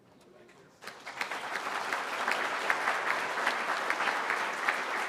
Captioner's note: applause